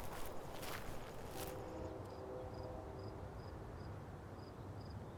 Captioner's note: distant train horn blares